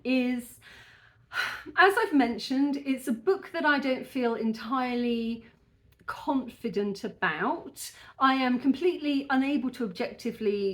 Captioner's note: sigh